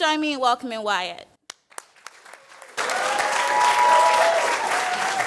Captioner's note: applause